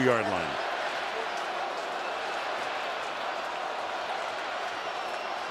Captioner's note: cheering